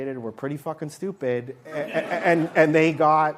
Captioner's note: laughter